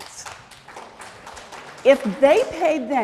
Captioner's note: applause